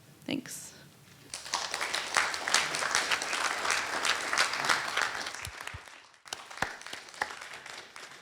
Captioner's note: applause